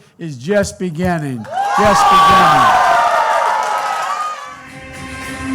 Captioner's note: applause